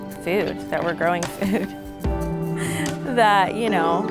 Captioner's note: chuckles